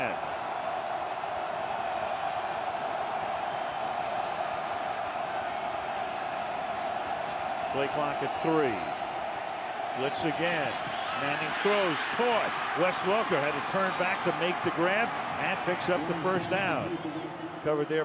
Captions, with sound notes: Third and 10. [crowd cheering] Play clock at 3. Blitz again. Manning throws, caught, Wes Welker had to turn back to make the grab and picks up the first down.